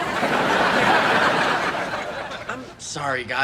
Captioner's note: audience laughing